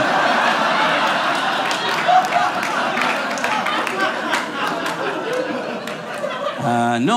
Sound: audience laughing

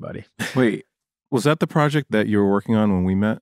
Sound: laughter

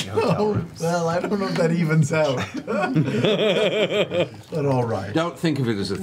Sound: laughs

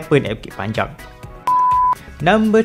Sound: beep

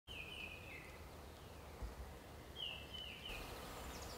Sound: birds chirping

